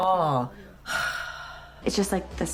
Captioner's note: 𝘥𝘪𝘴𝘢𝘱𝘱𝘰𝘪𝘯𝘵𝘦𝘥 𝘴𝘪𝘨𝘩